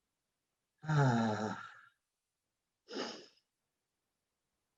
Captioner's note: sighs